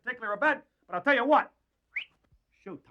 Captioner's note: whistles